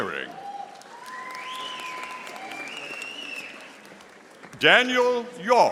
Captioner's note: audience applauding